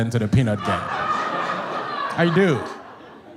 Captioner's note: audience laughs